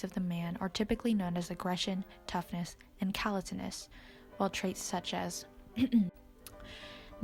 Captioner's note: ahem